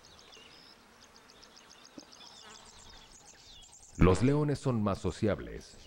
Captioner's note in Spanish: sonidos selváticos